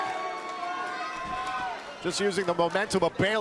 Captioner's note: crowd cheering